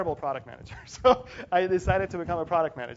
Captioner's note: laugh